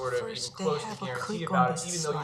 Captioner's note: whispering